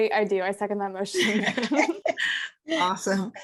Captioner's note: group laughs